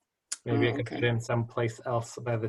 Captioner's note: laughter